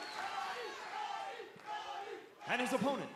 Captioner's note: cheers and applause; fans chanting